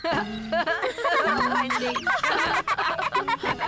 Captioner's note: laughing